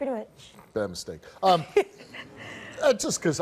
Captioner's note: laughs